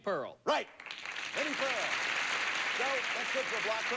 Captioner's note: audience applauding